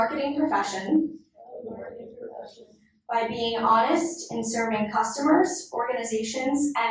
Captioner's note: inductees repeat